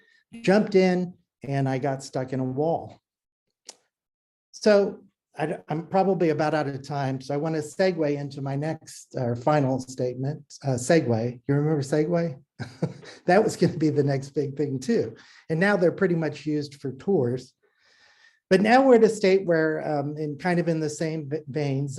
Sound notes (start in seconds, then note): 12.6 laughter